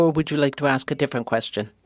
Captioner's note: speaking French